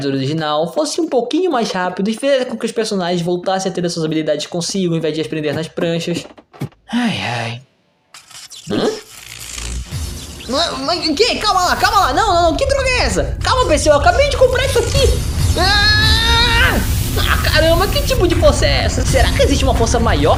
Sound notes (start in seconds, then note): 6.8 oh oh sigh